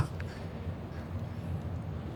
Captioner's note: laughs